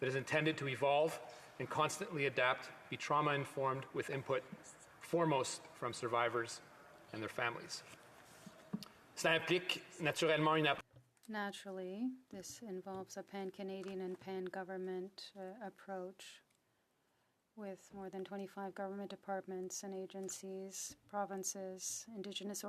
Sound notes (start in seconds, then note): 14.0 speaking French